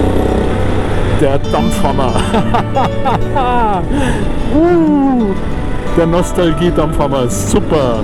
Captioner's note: laugh